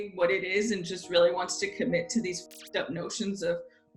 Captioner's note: static